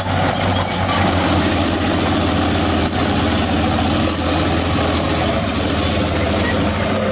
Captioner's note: bulldozer Turbo Sound